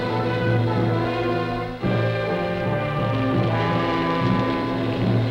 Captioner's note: flames crackling